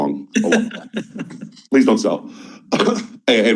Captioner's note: panelists chuckling